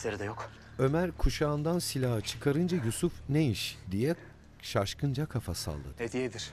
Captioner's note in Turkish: Nefes sesi